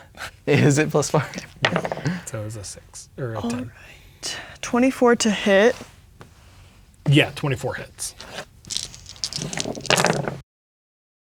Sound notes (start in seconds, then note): 8.6 dice rattling; 8.6 dice rolling; 11.1 quietly